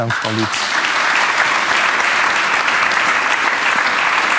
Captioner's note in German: Applaus